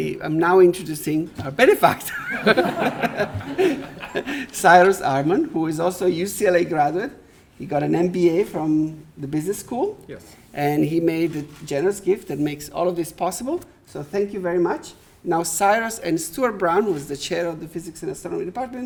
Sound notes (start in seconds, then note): 2.0 audience laughing